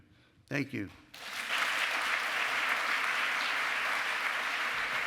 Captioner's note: cheering